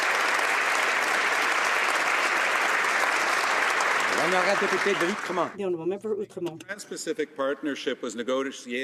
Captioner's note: some Applause